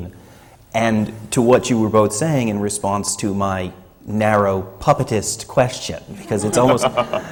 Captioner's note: laughter